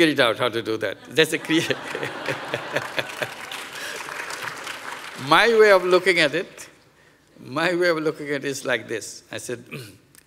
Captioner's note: laughs